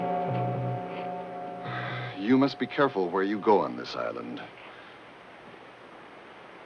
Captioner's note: sighs